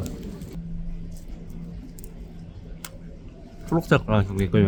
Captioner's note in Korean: 냠냠